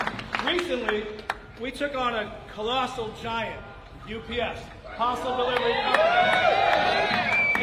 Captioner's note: applause